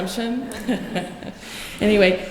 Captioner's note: laughter